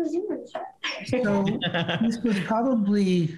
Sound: laughs

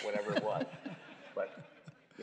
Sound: laughter

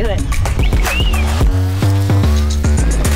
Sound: whistles; electronic dance music

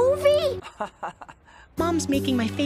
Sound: Johnny laughs

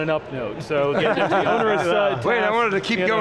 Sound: group laughs

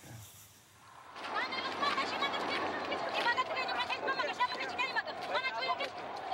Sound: woman shouting

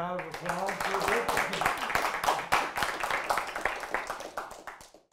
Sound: audience applauding

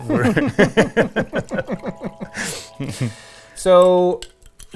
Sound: both laugh

